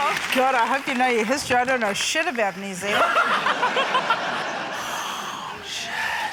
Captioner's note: laughter